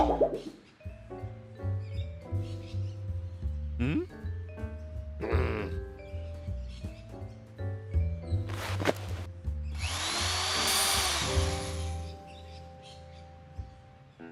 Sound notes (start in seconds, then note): 6.1 growls; 9.7 drill whirring